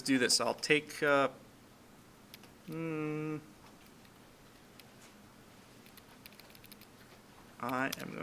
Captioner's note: clicking Sounds